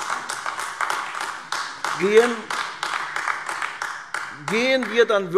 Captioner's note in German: Beifall AfD